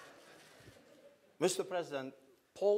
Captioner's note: laughter